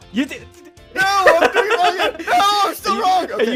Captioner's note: laughing